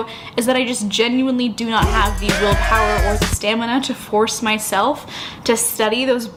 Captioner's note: inhale